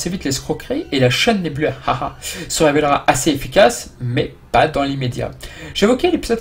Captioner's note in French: haha